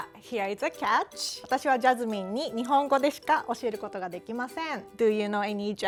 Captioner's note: speaking Japanese